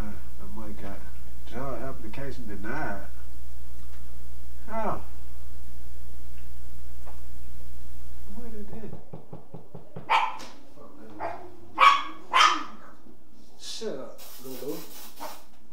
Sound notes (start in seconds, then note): 8.8 door Knocking; 11.1 dog Barking